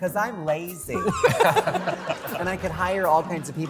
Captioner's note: laughter